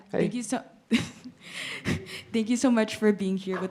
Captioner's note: nervously laughs